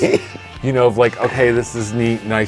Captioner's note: laughing